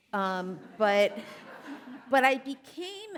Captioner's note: audience laughing